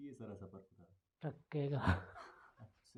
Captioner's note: chuckles